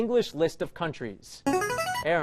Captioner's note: chiming